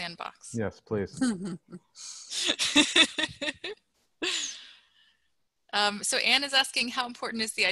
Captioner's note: laughter